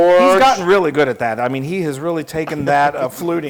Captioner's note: laugh